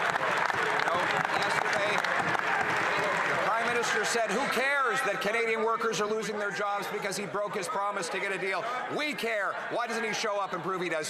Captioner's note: some Applause